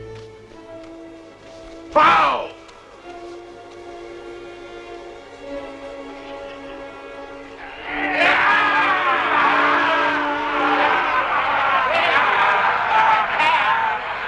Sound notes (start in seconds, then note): 8.2 men cheering; 11.6 men laughing